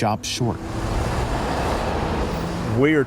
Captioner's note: traffic whooshes